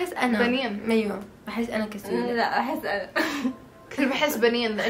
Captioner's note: chuckles